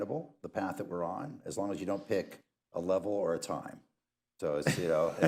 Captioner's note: laughter